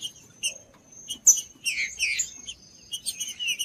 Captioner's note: trinca ferro cantando